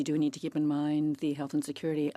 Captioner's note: speaking French